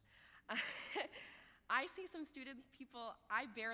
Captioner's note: laughs